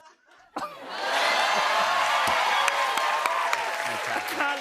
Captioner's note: cheers and applause